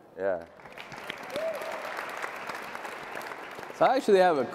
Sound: audience clapping

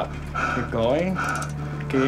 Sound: breathing

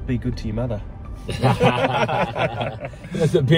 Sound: all of them laughing

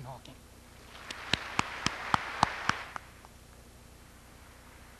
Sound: audience applauds

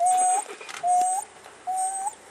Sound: dog continues whimpering

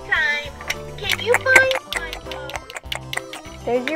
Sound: chewing

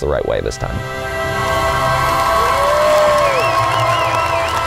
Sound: crowd cheering

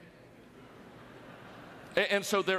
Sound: audience laughter

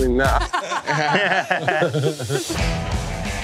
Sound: laughter

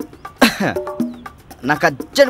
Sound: coughs

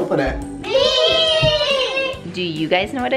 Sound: kids In Unison

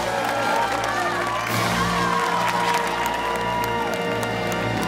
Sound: cheers and applause

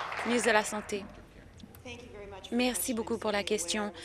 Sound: applause

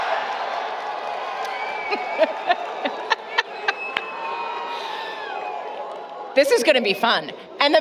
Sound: applause, Cheering

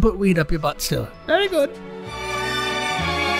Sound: Charlie High Pitched; theme music

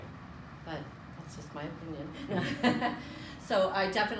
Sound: laughs

